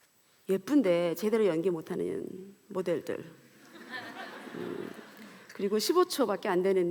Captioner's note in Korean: 웃음